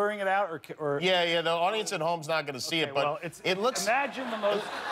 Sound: laughter

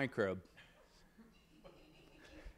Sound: laughing

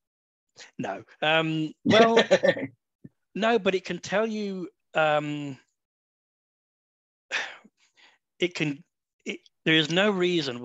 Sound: laughter

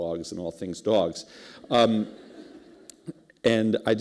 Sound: laughter

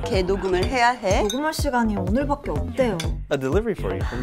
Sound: drinking glasses clink; audible gasp

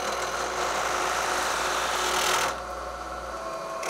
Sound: buzzing

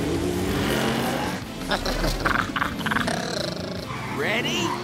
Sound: gurgling

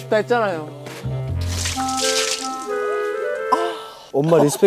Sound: pouring water

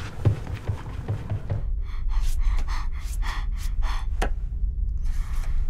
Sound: panting; breathing heavily

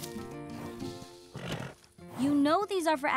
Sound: horse snorts

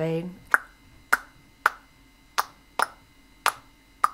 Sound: tongue clicking

